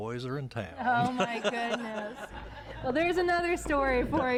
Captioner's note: �laughing�